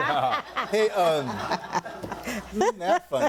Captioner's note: audience laughing